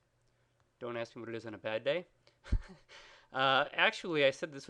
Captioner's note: laughs